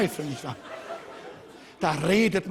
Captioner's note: Lachen des Publikums